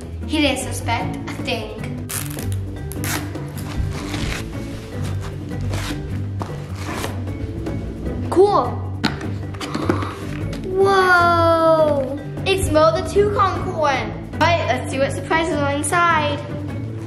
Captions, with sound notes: - See? He didn't suspect a thing. (fabric ripping) Cool. (lid clicking) Whoa. It's Mo the Toucan corn. All right, let's see what surprises are inside.